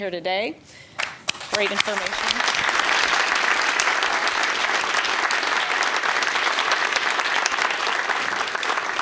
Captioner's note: applause